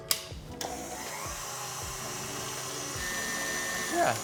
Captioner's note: mixer whirring